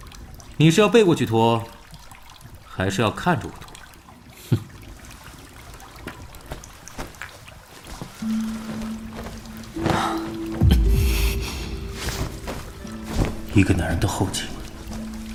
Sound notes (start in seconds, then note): 9.7 sighs